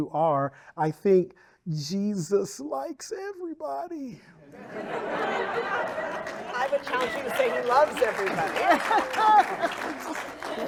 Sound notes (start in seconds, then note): 4.5 audience laughing; 5.1 audience applauding